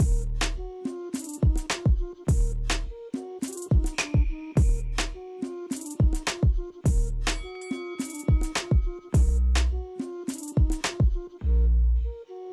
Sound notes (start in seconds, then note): 0.0 flute playing; 0.3 upbeat hip-hop music; 7.3 bell dinging